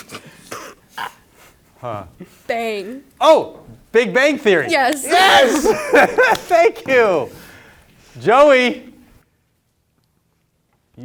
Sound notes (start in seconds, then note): 6.7 group laughing